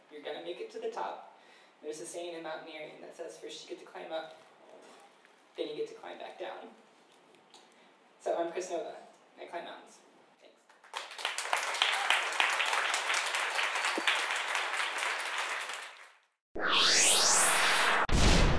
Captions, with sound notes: You're gonna make it to the top. There's a saying in mountaineering that says, "First you get to climb up, "then you get to climb back down." So, I'm Kris Nova, and I climb mountains. Thanks. (audience applauds)